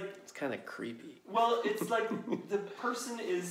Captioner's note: laughs